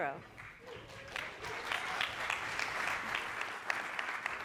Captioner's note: audience applauding